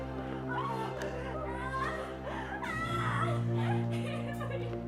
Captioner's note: Frances screaming